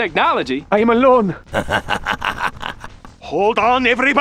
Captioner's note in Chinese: 哈哈哈哈哈哈哈哈~